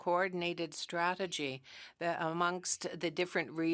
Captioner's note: speaking French